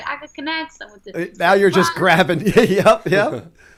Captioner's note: laughter